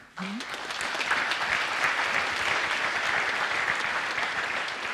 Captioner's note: audience applauds